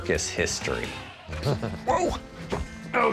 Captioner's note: chuckles